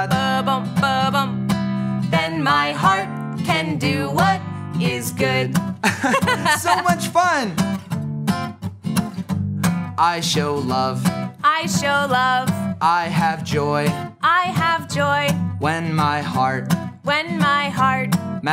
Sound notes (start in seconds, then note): 5.8 both laugh